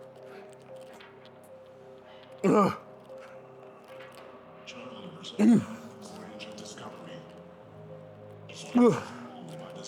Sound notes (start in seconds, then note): 5.1 grunting